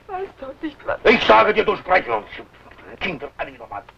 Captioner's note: foreign language